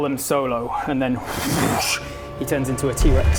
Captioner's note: whooosch